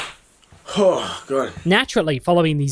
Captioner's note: sighs